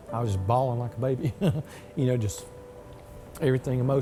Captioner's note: laughs